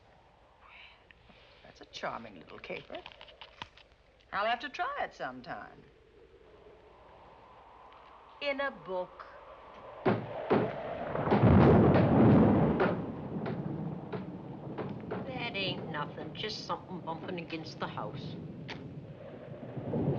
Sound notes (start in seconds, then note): 10.0 thudding; 11.5 thunder booming